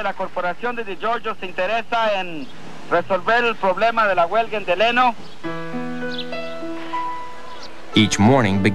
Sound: speaking in Spanish

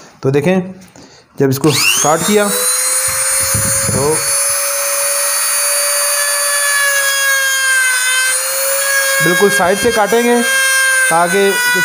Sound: grinder cutting voice

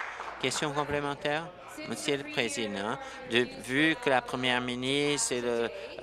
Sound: applause

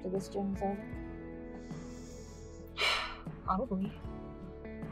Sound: exhales loudly

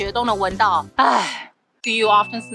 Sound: sigh

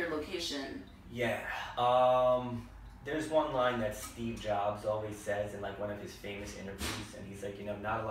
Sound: ahh

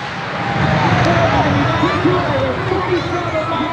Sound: crowd cheering

